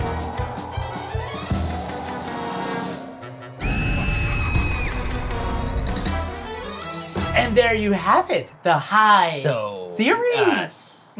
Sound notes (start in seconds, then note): 0.0 bouncy circus music; 3.4 woman screaming; 4.9 bouncy circus music